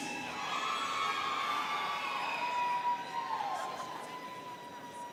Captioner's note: students cheering